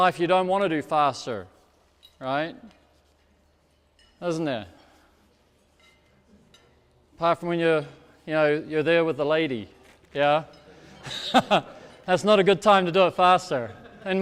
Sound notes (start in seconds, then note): 10.8 laughs